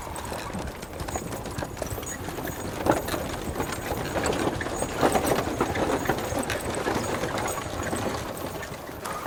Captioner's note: hoofbeats, horses blowing; wagon wheels rattling